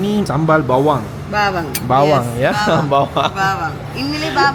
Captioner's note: laugh